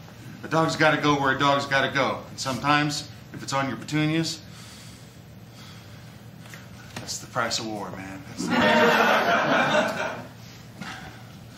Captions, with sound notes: A dog's gotta go where a dog's gotta go. And sometimes, if it's on your petunias... (sighs) That's the price of war, man. (laughter)